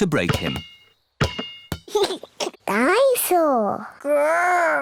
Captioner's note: giggles